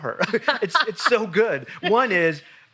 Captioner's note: laughs loudly